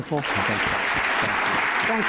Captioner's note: applause